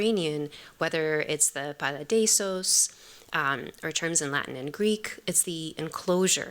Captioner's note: non-english